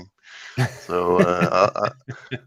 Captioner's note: laughs